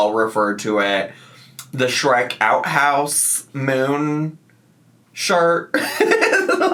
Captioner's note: laughs